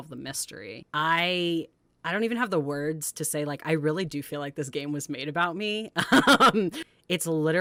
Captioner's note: laughs